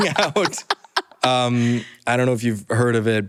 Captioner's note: laughter